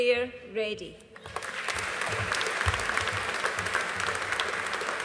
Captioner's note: audience applauding